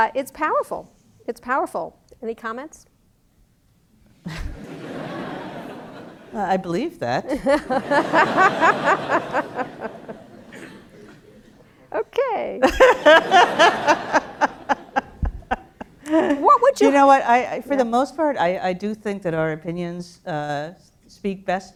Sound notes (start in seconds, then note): 4.2 laughter; 4.2 laugh; 7.2 laughter; 12.6 laugh